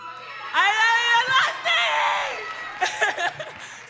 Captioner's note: audience yelling; laughing